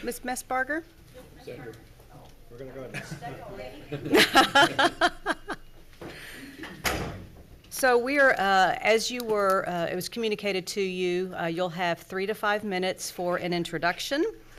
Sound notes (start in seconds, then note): 4.0 speaker laughs